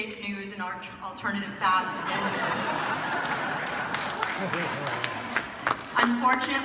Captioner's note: laughter